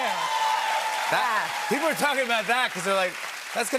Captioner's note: cheers and applause